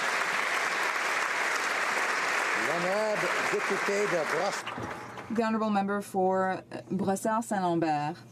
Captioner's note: applause